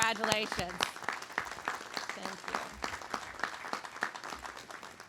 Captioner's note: audience applauding